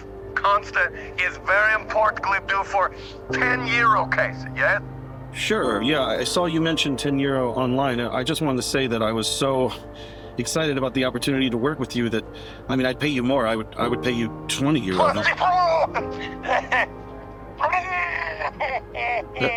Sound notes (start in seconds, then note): 16.6 dry heaving; 17.5 continues to dry heave